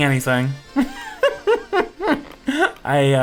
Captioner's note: laughs